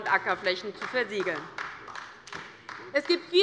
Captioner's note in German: Beifall der Abg